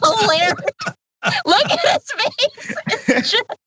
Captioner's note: laugh